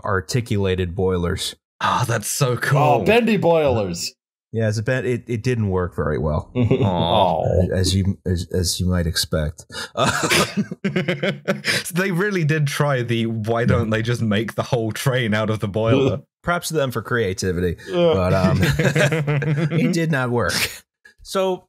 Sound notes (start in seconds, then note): 6.5 disappointed noise; 9.8 laughter